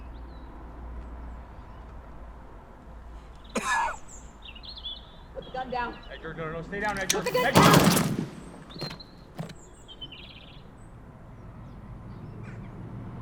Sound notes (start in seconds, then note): 3.5 cough; 6.9 pulse rifle burst; 7.5 body hitting dirt